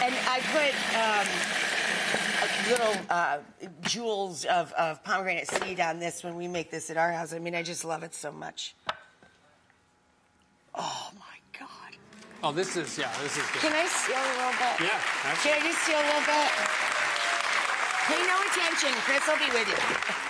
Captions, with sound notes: And I put jewels of pomegranate seed on this, when we make this at our house. I mean I just love it so much. Oh my God. (audience claps) This is good. Can I steal a little bit? Yeah, absolutely. Can I just steal a little bit? (audience cheers) Pay no attention, Chris will be with you.